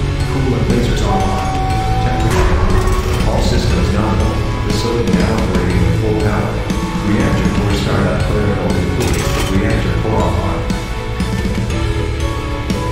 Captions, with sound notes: Coolant lasers online, temper- *Lights activate, announcement chime* ASAS: All systems nominal, facility now operating at full power. Reactor core startup protocol complete, reactor core online.